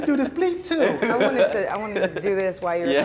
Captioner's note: laughing